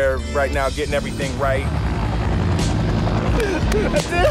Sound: helicopter whirring; laughs

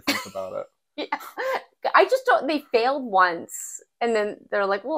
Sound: laugh

